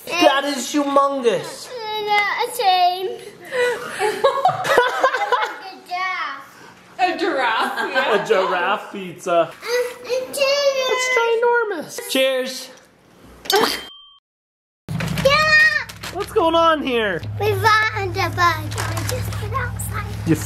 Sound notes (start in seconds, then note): 12.8 imitating glass clicking